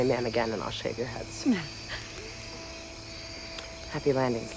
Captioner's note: Betsy chuckles